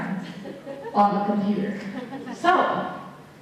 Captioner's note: laughter